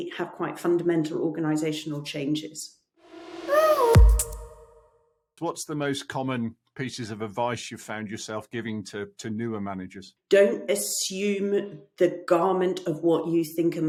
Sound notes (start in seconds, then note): 3.1 logo swishing in